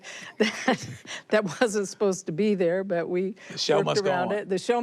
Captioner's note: both laugh